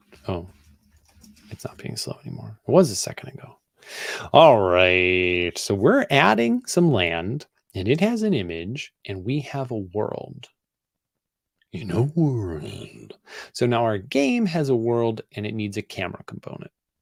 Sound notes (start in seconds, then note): 11.6 in dramatic voice